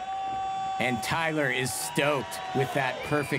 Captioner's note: cheering